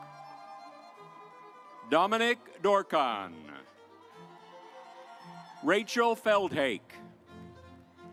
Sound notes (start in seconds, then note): 0.0 audience applauds; 4.0 audience applauds